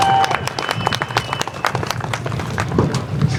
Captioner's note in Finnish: aplodeja